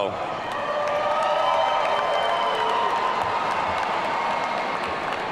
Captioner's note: audience cheering